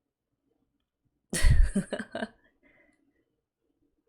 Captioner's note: laughs